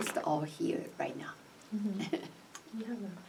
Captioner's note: chuckles